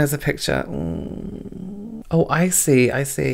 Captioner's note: groans